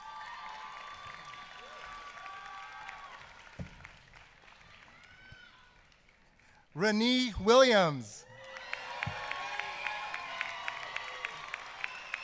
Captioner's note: applause